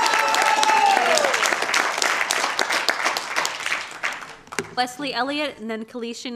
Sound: applause

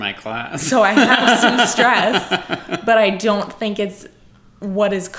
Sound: laughs

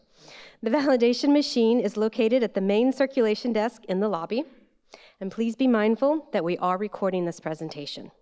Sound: none

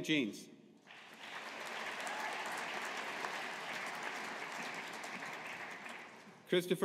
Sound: audience applauding

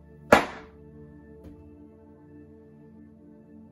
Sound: smack

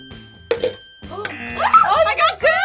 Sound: bell rings; buzzer

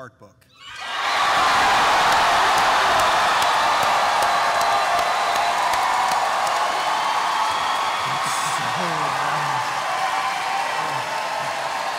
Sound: cheering

